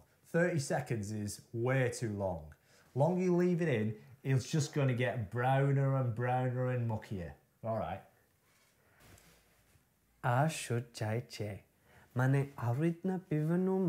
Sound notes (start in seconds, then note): 10.2 speaking Gujarati